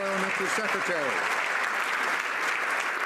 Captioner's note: some Applause